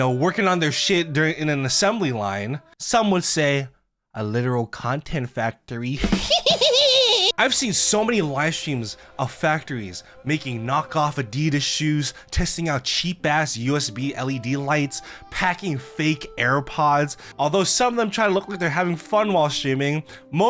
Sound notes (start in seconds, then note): 6.0 maniacal laughter